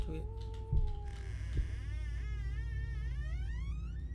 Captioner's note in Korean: 문소리